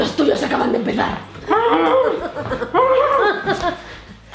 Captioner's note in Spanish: gritos de auxilio y risas maniáticas :v